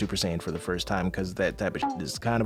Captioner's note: beep